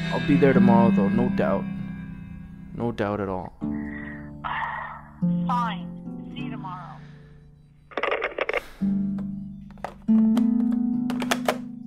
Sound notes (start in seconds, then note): 3.6 scoffing; 7.9 phone clicking